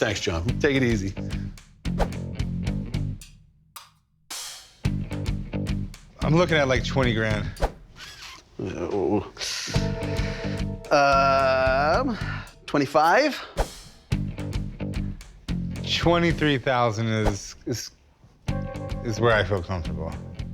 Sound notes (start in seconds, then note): 7.0 sucks teeth; 10.0 inhales sharply